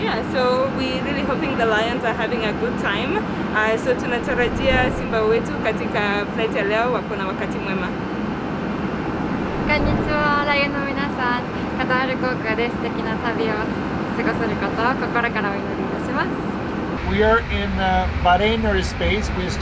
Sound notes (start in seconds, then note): 3.6 speaking in Swahili; 9.8 speaking in Japanese